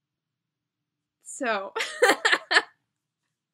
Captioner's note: laughs